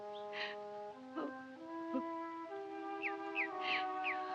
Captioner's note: sobbing continues